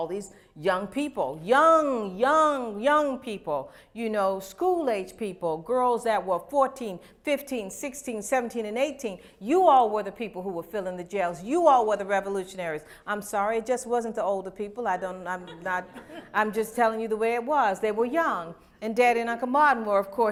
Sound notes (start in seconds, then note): 15.4 laughter